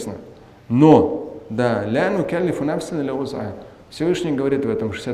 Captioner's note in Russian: говорит на арабском